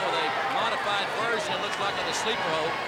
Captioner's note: crowd cheering